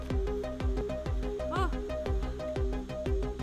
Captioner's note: gasps